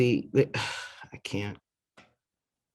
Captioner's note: sighs